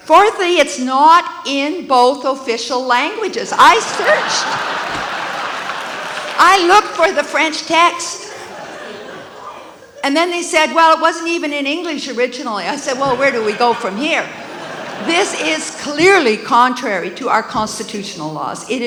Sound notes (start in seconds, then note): 3.5 audience laughs